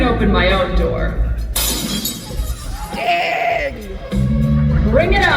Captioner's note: glass smashing